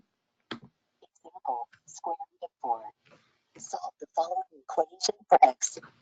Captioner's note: Read&Write Voice